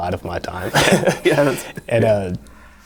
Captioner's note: laughing